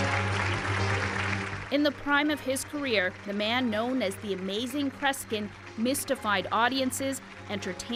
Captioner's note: applause